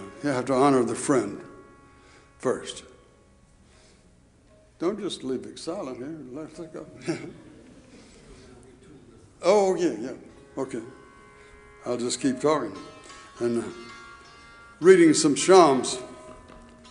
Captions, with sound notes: You have to honor the friend first. Don't just leave it silent here, let's let go. (drummer speaks off microphone) Oh, yeah, yeah, okay. I'll just keep talking. (mystical music) Reading some Shams.